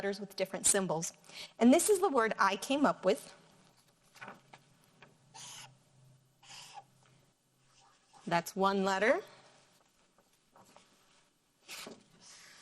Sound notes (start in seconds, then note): 5.6 marker scribbling